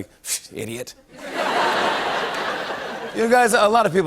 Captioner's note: laughter